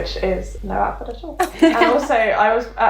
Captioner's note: laughing